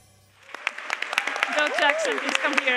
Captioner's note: Aplodit